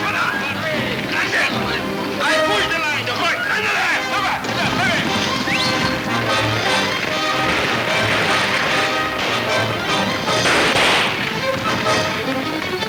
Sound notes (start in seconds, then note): 4.4 guns firing; 8.1 exciting orchestra music